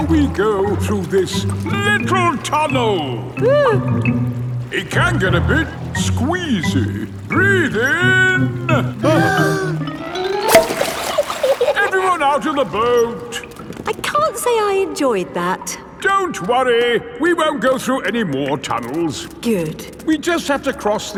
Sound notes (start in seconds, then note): 3.8 whimpers; 9.1 breathing in